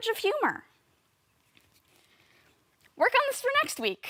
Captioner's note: soft breathing